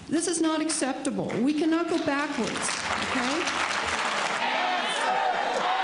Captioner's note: cheering